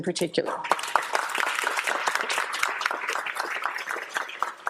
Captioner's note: applause